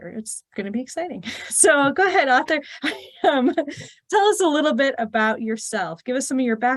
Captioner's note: chuckle